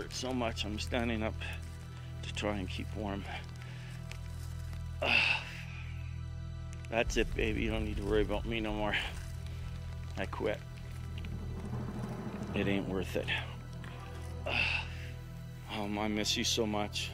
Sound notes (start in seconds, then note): 8.2 ice rustling